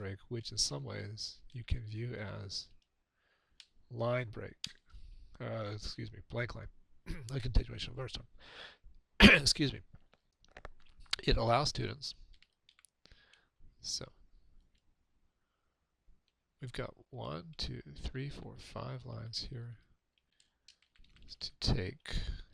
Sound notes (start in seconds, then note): 9.2 coughs